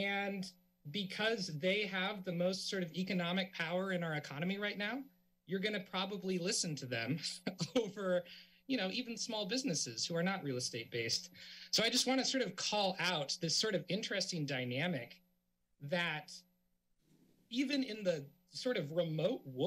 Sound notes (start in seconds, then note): 7.3 laughs